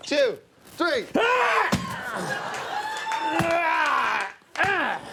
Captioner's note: Conan grunts